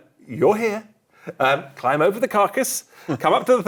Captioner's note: laughs